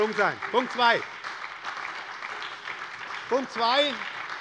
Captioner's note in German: Beifall bei der SPD